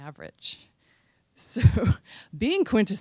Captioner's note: chuckling